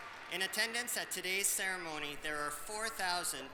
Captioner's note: applause